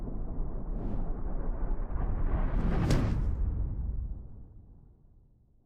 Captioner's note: thunder cracking